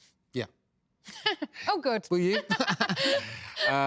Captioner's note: laughs